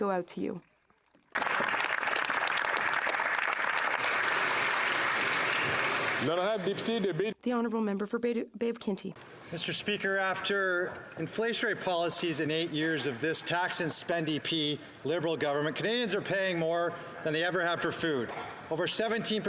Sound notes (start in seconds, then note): 4.4 applause